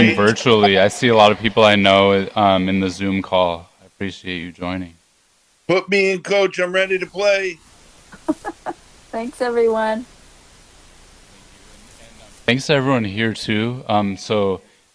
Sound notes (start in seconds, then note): 8.1 laughs